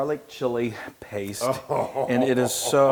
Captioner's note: laugh